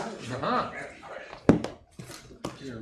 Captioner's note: laughing